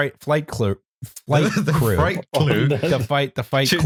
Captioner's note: laughs